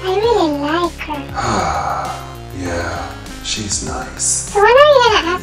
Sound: sighs

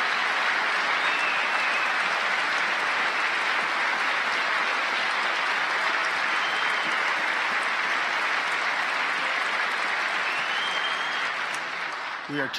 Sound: cheers and applause

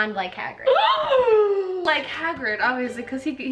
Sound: gasps

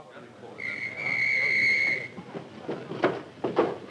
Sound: whistle blowing

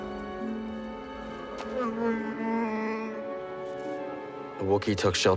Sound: Wookiee moans

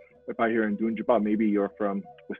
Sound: speaks foreign language

